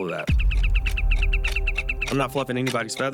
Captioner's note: fast-paced chirping